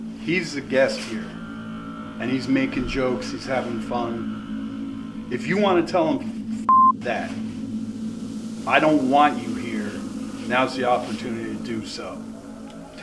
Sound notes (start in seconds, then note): 6.6 beep